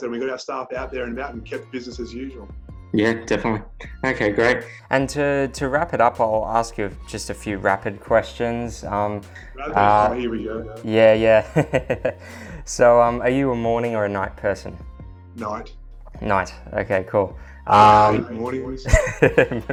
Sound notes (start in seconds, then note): 11.3 laughs; 18.8 laughter